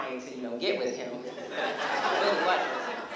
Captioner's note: laughter